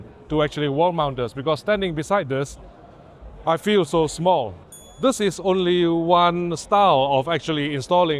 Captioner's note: ding